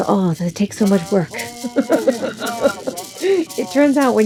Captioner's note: laughing